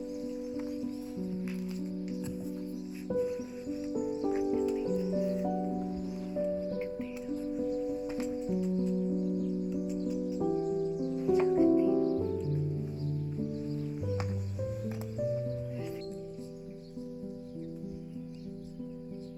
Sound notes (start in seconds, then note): 1.2 gentle music; 5.8 birds chirping